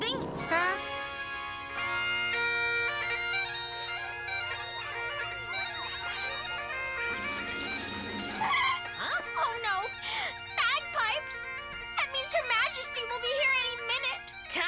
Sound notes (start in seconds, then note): 1.2 triumphant music; 4.1 lively bagpipe music; 5.6 wheels squeak; 7.9 wheels squeal